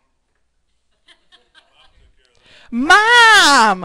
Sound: audience laughing

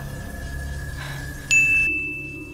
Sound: ding

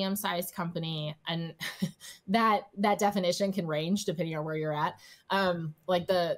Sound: chuckles

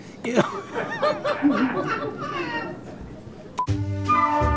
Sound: laughter

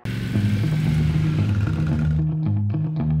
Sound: bike roaring; lively music

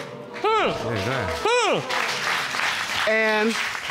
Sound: audience exclaiming and clapping

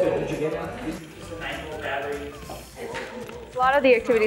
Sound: people murmuring

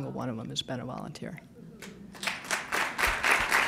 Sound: applause

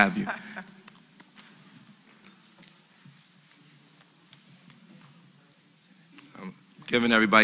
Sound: laugh

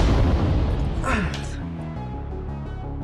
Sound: boom!; celebration noise

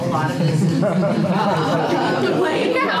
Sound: audience laughs

